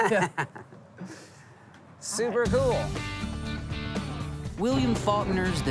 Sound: chuckles

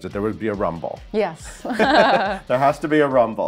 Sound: laughs

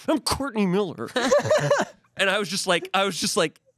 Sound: laughs

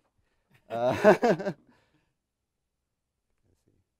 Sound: chuckling

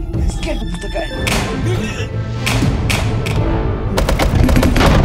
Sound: electrical thunks

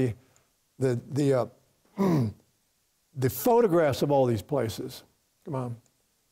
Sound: clears throat

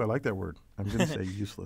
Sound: laugh

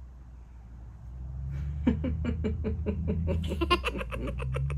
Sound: chuckling

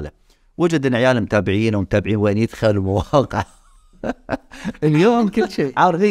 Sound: laughs

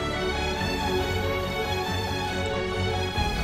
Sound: building music; buzzing sounds

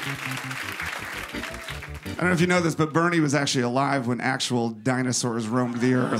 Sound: applause

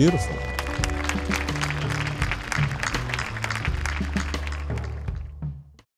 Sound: applause

